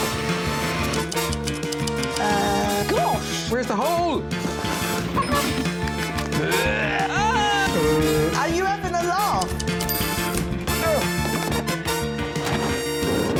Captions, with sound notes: -Uh... -Gosh. Where's the hole? -[growls] -Ah. -Uh. -Are you having a laugh?